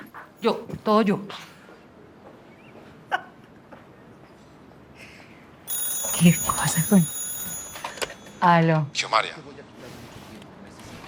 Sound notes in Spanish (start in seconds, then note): 2.9 Risas; 5.6 Suena el teléfono